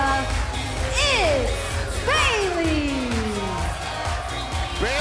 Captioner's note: crowd cheering